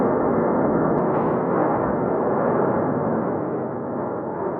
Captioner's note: volcano roaring continues